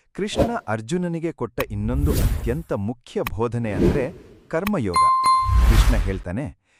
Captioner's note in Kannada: ಗಂಟೆ